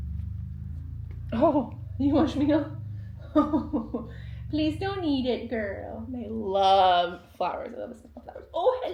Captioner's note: laughs